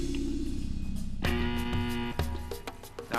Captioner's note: klaxon